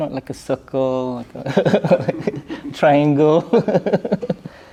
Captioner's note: chuckles